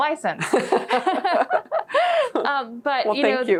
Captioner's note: both laughing